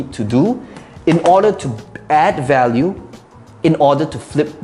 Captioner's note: clattering laptop